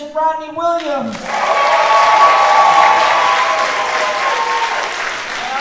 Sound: audience clapping

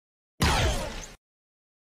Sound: blaster Fire

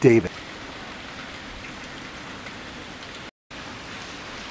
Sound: fountain rustling

